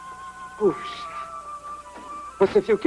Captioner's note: door closes